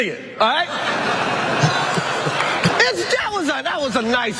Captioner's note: laugh